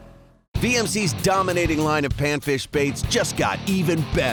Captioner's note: voiceover